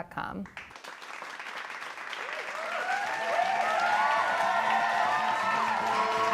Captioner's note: appaluse and cheers